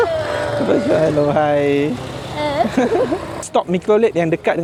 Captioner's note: laugh